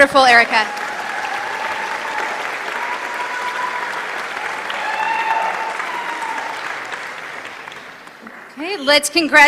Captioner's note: applause